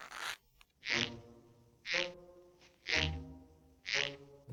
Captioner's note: soft creaking; creaking